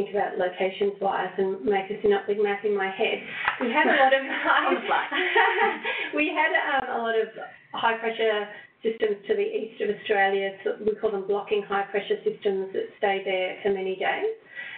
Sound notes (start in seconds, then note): 7.4 laughing